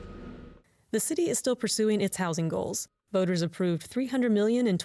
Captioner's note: voice-over